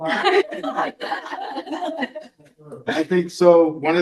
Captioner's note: all laugh